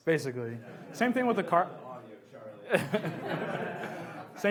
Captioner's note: laughs